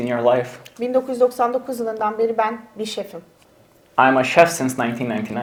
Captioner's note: speaks in Turkish